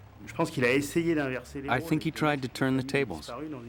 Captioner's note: speaks in foreign language